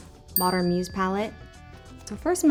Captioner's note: bell pings